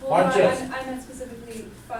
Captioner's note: voiceover